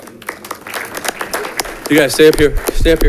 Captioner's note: audience clapping